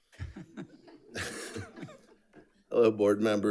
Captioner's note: audience laughs